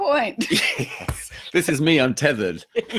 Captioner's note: laughs